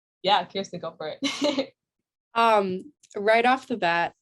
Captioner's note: chuckling